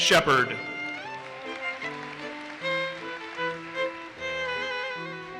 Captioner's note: audience applauses